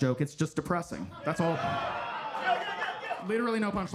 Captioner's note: audience laughing